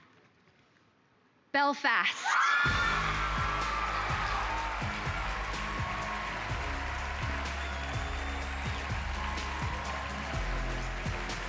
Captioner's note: applause